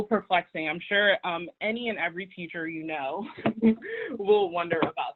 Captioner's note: laughs